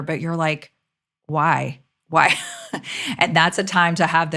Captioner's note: laughs